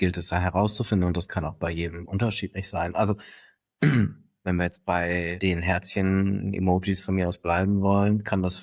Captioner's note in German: räuspern